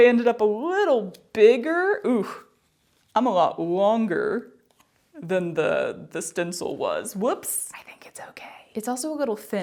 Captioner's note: whispered